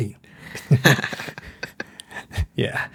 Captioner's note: laughs